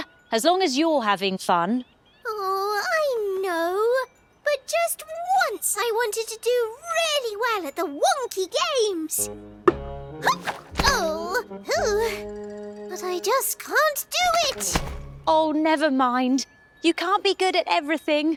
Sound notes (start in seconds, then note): 11.8 Pocket sighs